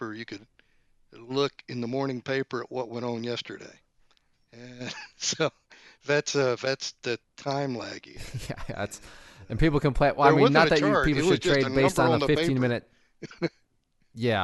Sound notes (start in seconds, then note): 4.6 laughs; 13.7 laughs